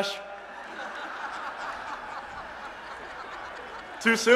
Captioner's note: laughter